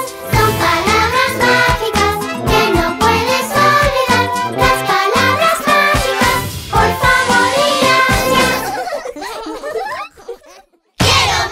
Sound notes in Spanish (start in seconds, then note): 8.3 Risas